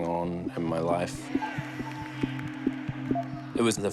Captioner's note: crowd cheers faintly